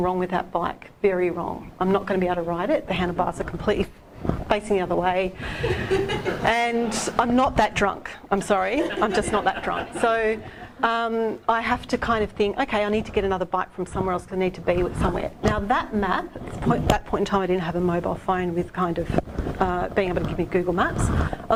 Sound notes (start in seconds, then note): 5.5 laughing